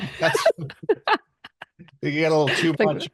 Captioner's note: laughs